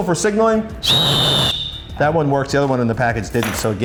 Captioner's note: whistle